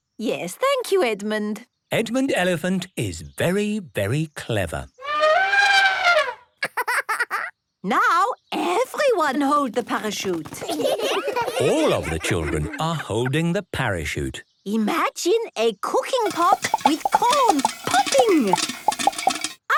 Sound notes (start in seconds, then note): 4.9 laughing; 5.0 trumpeting; 10.5 laughter